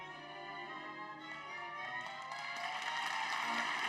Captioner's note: applause